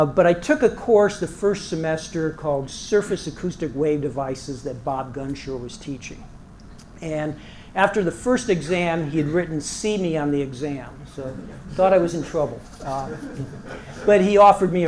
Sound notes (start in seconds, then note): 12.8 laugh